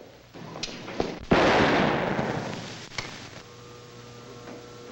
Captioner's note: gun fires; machinery humming